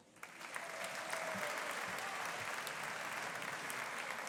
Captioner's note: audience applauding